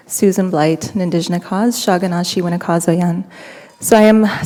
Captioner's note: foreign language